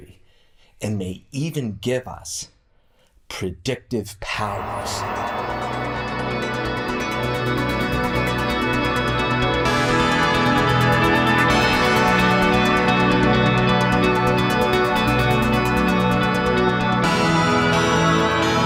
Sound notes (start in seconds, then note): 7.7 echo and reverb; 13.9 outro music